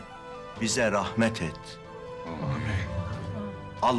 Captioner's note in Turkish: Hep bir ağızdan